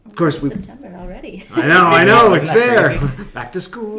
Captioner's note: laughing